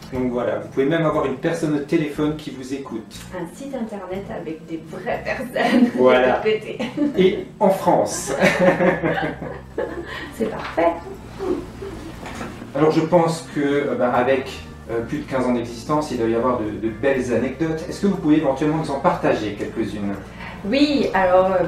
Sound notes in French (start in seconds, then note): 8.3 Rires